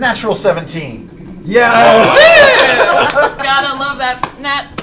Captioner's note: cheering